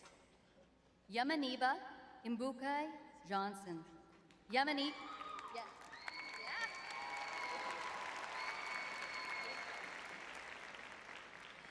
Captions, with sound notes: Yamaanibah Inbuukai-Johnson. Yamaanibah- [cheering] Yes. Yes.